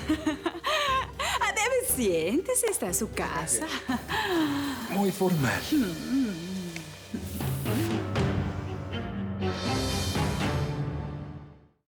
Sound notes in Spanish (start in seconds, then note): 0.0 Ella se ríe